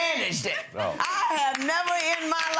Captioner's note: audience applauding